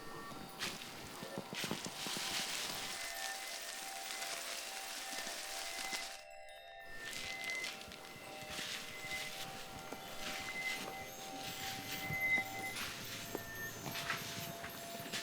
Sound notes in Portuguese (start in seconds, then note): 0.6 Tilintar suave; 2.4 Chiado leve; 11.4 Tilintar suave continua